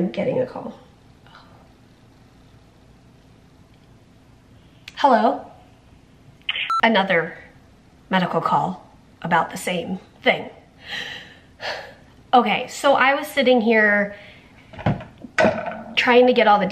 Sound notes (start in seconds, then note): 6.5 beep transition